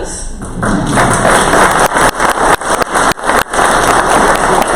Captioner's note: crowd applause